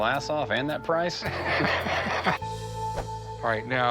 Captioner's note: laughter